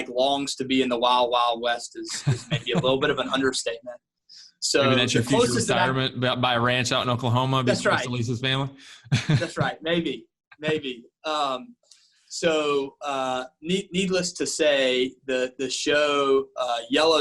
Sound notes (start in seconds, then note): 8.1 faintly speaking